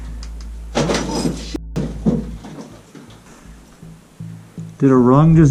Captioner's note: beep